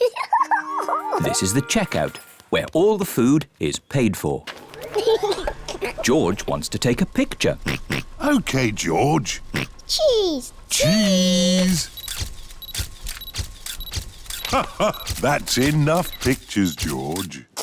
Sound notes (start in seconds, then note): 4.8 giggles; 7.6 oinks; 14.4 laughs